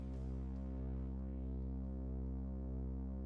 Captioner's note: none